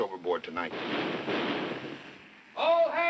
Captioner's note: loud knocking